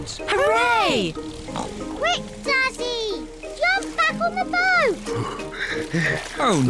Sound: panting

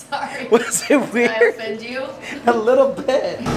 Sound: laughing

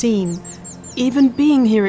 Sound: birds chirping

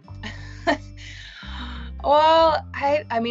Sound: laughs

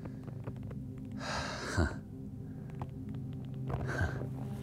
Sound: laughs

